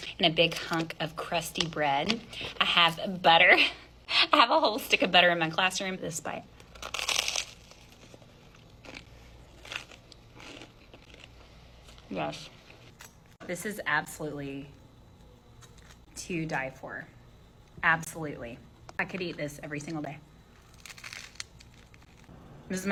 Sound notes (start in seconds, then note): 6.5 bread crunching